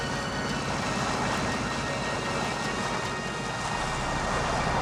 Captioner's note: water splashing